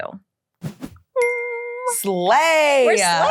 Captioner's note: air whooshing